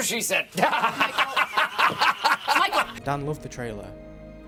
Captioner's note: laughing